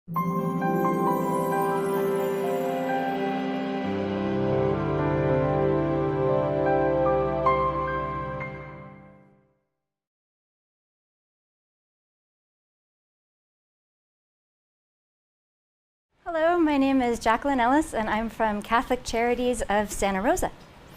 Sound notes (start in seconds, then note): 0.1 intro Music; 9.3 no audio